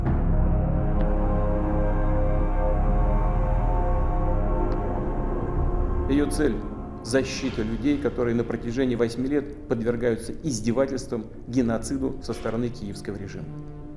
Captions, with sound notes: [speaking Russian] The aim of this operation is to protect the people who have been subjected to humiliation and genocide by the Kyiv regime for eight years now.